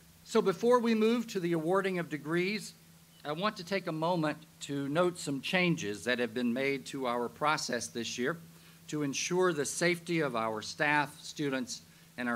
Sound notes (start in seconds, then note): none